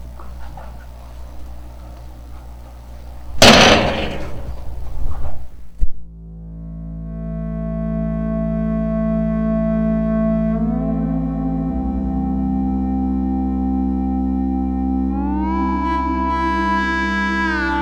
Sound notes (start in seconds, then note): 3.3 door Closing